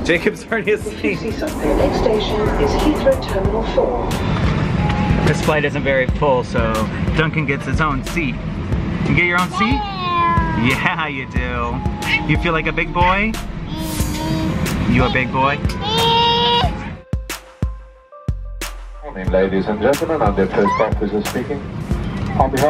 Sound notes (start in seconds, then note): 9.5 baby babbles; 14.2 babbles